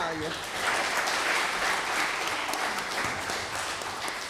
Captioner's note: applause